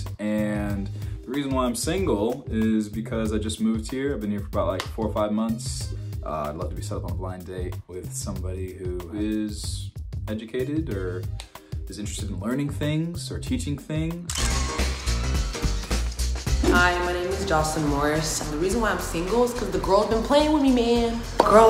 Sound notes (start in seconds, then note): 14.3 camera click